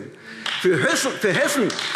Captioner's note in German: Beifall AfD